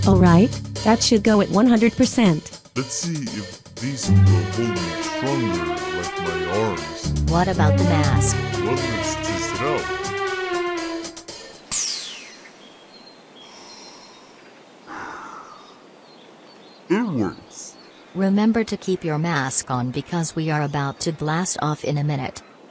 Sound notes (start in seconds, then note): 14.9 breathes in the mask